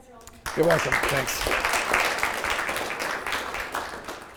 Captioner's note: applause